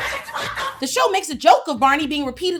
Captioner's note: audience laughs